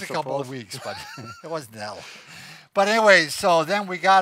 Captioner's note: laughing